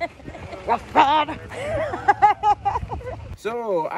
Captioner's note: laughs